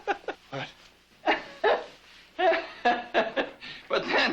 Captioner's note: laughs; laughs